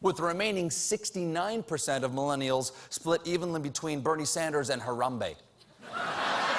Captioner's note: laughter